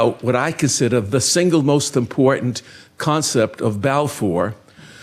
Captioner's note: none